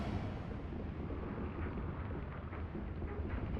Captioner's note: sound of ship cannons loading in distance